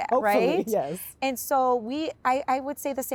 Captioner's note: laughs